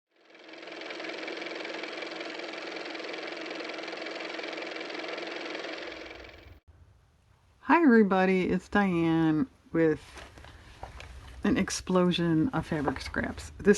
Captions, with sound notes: (car motor) hi everybody it's Diane with an explosion of fabric scraps